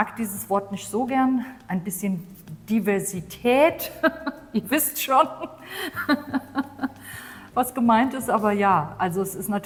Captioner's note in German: gelächter